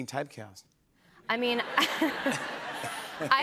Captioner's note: laughter